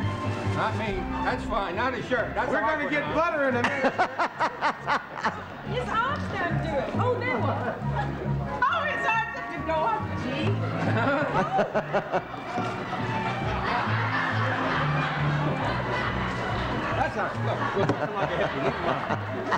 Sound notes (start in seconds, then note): 3.4 laughs